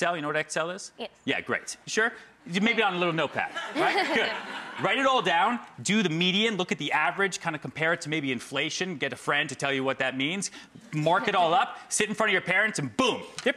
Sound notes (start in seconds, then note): 3.0 crowd laughs